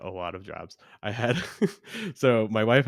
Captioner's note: laughs